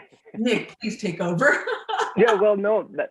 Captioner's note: laugh